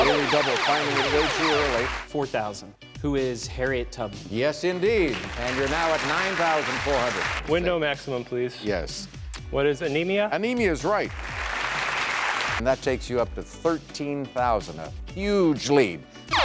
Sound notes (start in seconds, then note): 0.0 zapping; 5.0 clapping; 11.1 clapping